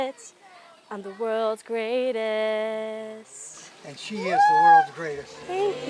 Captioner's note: cheering